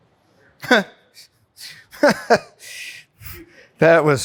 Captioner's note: laughing